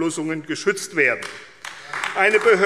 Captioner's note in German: Beifall AfD